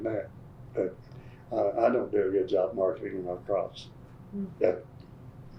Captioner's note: laughs